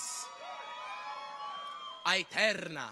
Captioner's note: people cheer